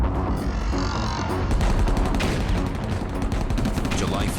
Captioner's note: sounds of battle